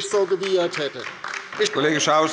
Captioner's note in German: Beifall bei der LINKEN